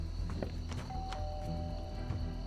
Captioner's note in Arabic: خطى; جرس الباب يرن